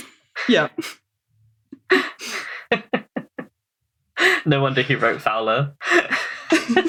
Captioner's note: laughs